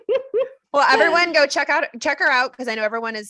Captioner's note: laughter